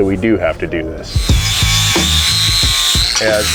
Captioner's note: grinder buzzes; moderate hip-hop music